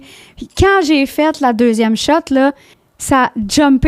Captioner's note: in french